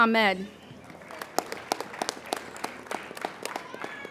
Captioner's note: applauding